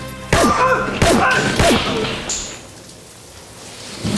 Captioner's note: silenced gunshots